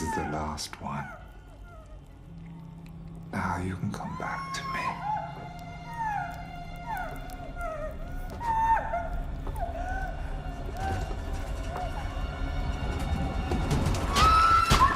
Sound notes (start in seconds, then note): 5.4 woman crying; 11.7 tense music; 14.2 woman screaming; 14.7 pounding on door